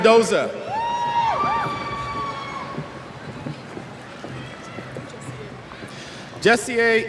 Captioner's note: cheers